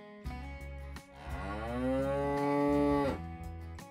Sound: cow Moo

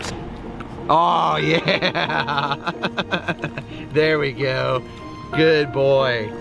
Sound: laughs

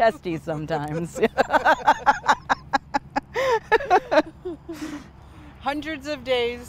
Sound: they laugh

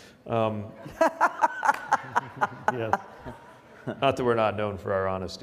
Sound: Mayor Durkan laughs

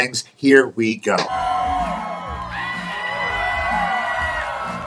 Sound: guests cheering

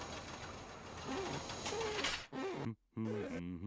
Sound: glass squeaking

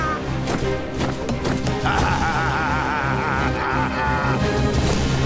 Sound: laughing; laughing

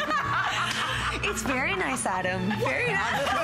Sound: laughter

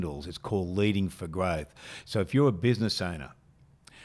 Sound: none

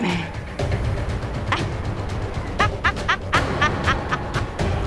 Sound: evil laughter

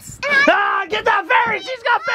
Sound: exclaims excitedly

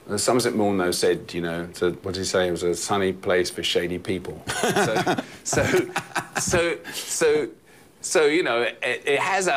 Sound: laughter

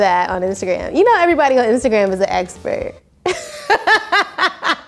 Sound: laughs

